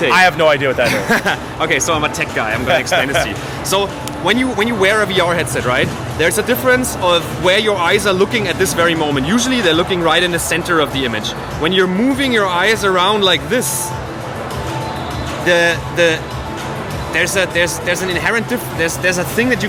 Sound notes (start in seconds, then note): 0.8 laughing